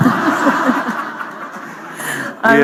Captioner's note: laughter